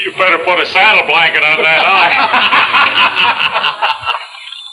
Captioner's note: men laughing